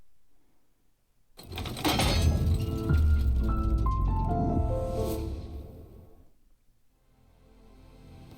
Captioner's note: mechanical clunk and whirring followed by 🎵piano flourish🎵